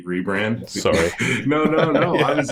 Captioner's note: laughs